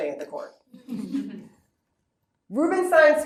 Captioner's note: laughter